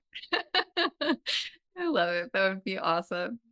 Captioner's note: both laughing